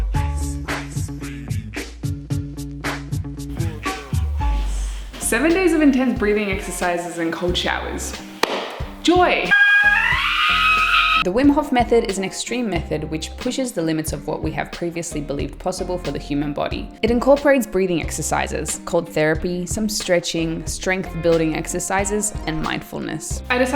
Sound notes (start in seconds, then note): 9.4 screaming